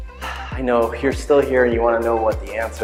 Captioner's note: sighs